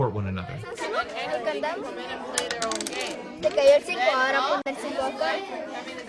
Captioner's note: speaking in foreign language